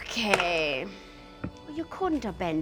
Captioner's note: dice roll